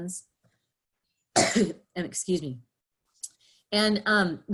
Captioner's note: coughing